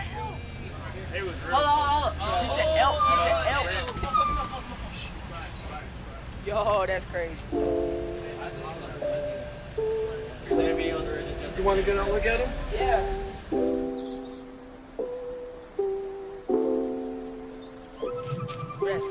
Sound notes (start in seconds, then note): 14.1 birds chirping